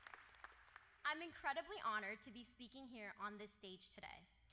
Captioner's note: applause